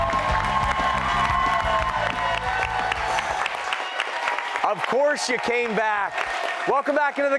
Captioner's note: cheers and applause